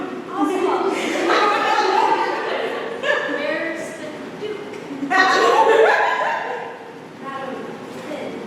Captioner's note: sustained laughter